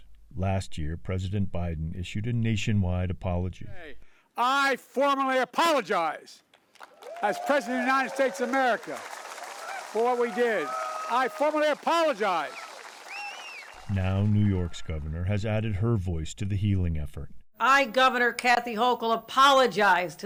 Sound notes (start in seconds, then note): 10.5 audience cheering